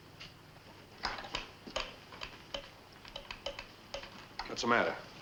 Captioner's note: telegraph wire clicks